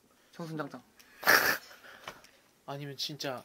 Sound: laughing

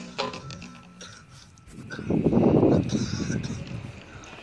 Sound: coughing

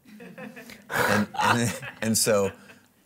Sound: audience laughing

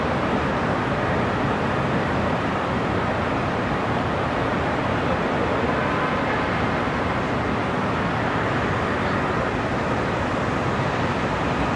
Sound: sound of distant cars and city noises

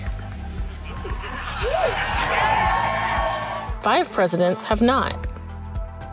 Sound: applause

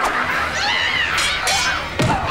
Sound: growling; screaming; grunting

